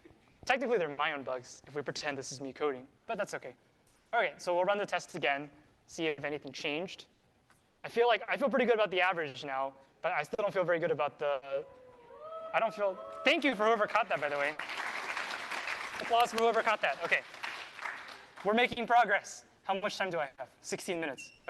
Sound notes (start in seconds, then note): 11.9 cheering